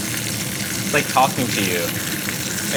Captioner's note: pan sizzling